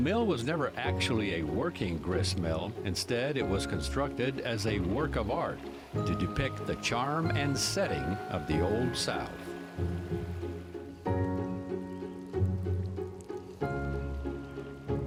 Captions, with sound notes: The mill was never actually a working gristmill, instead it was constructed as a work of art, to depict the charm and setting of the old South. (water running)